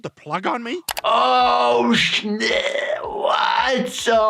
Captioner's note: gasping